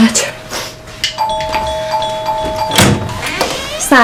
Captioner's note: doorbell ringing; door opening